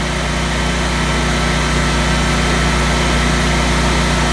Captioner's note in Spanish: sonido del motor